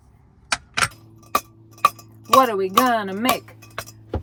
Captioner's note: pot clanking